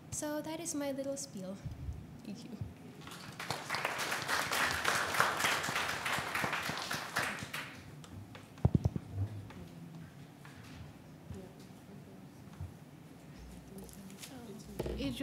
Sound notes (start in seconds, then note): 3.0 applause